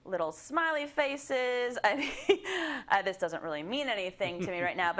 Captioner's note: laugh